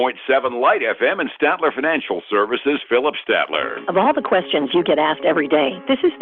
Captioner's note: radio